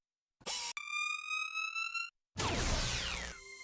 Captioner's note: whirring